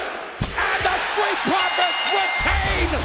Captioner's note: crowd cheering; bell ringing